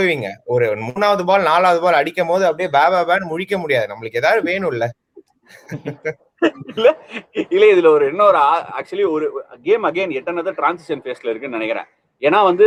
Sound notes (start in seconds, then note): 5.4 laughs